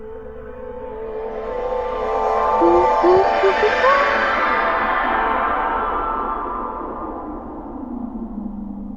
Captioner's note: teleportation sound